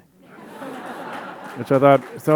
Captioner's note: audience laughing